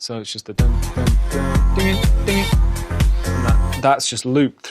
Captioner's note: imitates organ